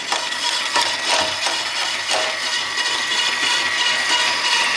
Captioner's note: motors running